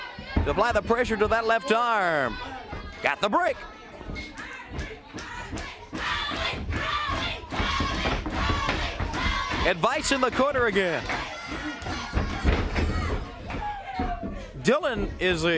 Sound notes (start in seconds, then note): 4.0 crowd cheering